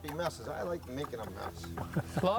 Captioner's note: chuckles